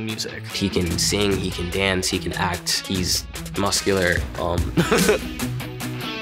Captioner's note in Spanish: risas